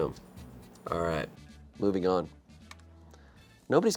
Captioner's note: none